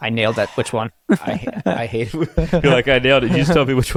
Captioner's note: chuckle